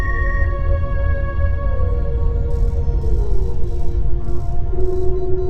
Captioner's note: machine beeps